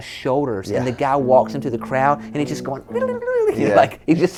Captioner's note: imitates guitar shredding